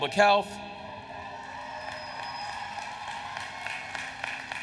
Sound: applause

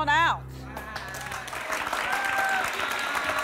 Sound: applause

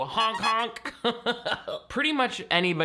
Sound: laughs

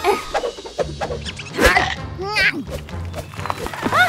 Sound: chomping

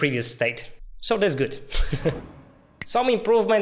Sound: laughs

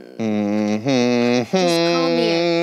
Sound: humming

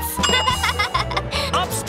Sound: laughing

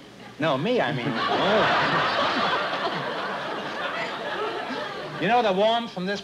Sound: laughter

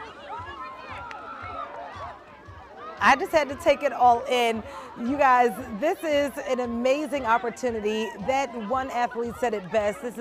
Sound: laughter; cheering

